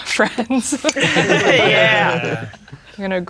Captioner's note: all laughing